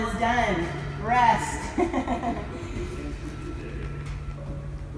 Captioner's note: laughs